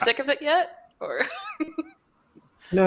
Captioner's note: laughs